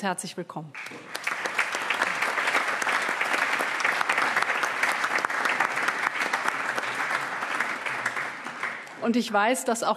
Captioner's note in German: Allgemeiner Beifall